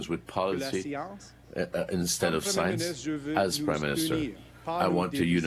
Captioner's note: speaking French